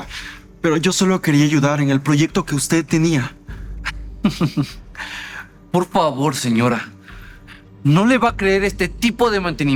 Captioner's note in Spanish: risas